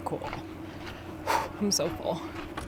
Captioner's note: exhales